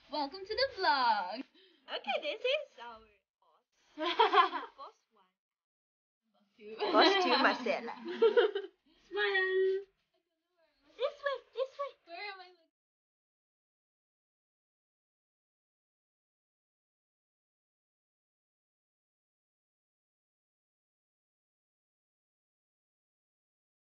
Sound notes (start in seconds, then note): 2.3 students conversing; 3.9 laughs